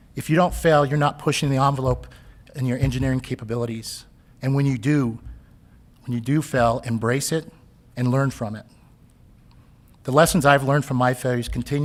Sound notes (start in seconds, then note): none